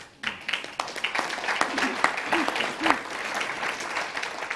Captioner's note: audience applauds